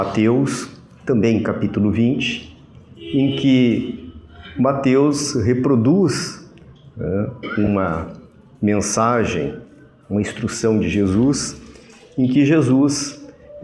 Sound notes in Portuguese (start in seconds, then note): 7.1 tosse